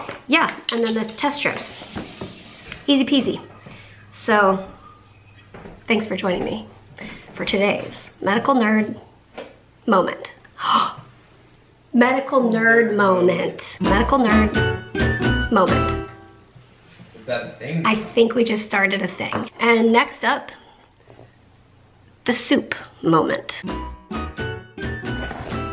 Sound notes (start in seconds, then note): 10.4 gasps; 13.8 fun sound effect